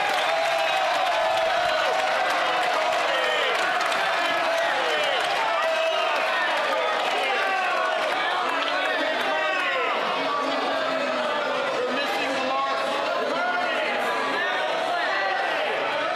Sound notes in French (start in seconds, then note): 5.2 applaudissements